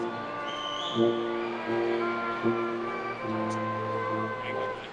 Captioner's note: attendees cheering